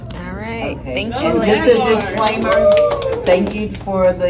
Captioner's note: cheering and clapping